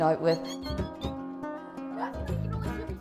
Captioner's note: bird noises